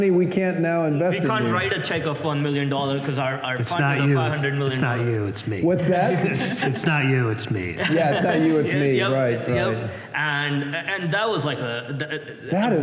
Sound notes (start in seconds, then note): 7.7 laughter